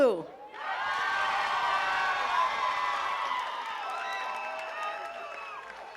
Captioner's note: attendees cheering and clapping